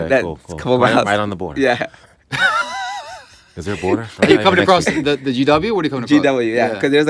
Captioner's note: laughter